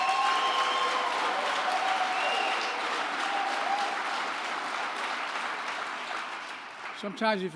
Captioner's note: applause